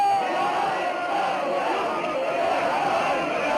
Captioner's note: crowd shouting indistinctly